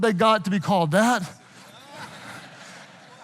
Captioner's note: audience laughing